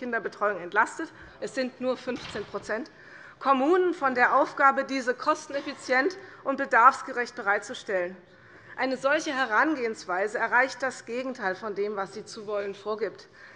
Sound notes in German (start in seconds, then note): none